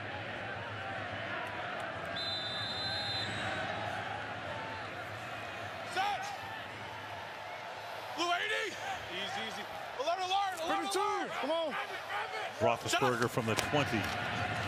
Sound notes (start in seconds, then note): 2.1 whistle blowing